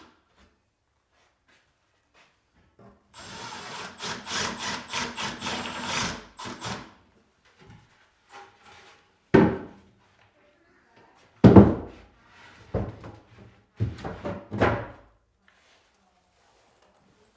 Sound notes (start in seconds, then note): 3.1 drill whirring; 9.3 wood thudding